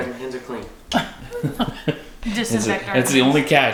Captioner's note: laugh